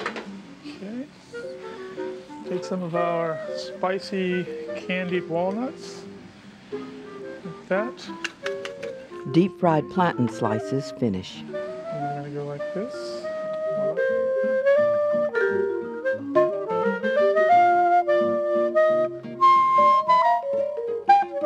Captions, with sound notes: Okay. Take some of our spicy candied walnuts like that. - [Voiceover] Deep-fried plantain slices finish. - Then we're gonna go like this. Voila. (soothing music)